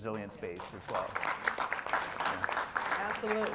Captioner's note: applause